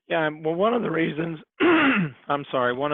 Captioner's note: clears throat